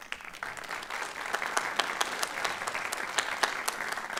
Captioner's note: applause